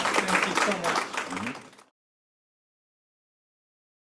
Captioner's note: applause